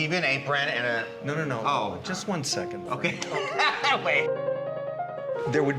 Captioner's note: men laughing; piano music